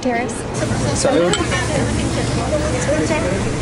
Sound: glasses clink; people chattering

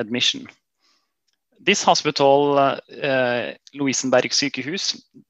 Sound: Norwegian

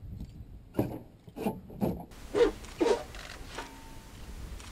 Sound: metal scraping

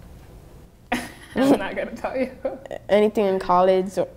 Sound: laughing

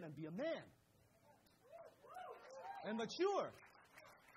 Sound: crowd cheers

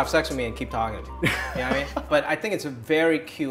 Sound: laughter

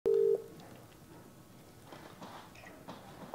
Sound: phone beeping

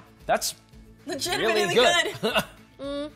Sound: chuckles

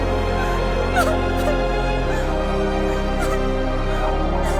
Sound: sobbing continues

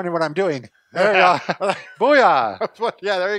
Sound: laughing

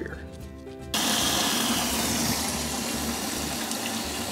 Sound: rushing water

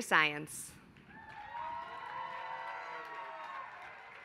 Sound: applause

